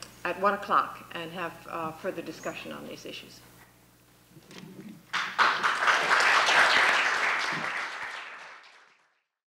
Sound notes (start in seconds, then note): 5.1 applause